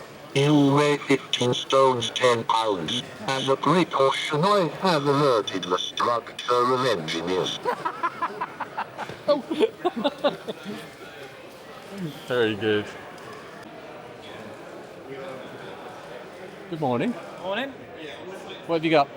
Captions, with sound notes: You weigh 15 stones, 10 pounds. As a great portion, I have alerted the structure of engineers. (Laughing) Very good. Good morning. Morning. What have you got?